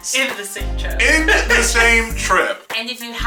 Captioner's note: laughing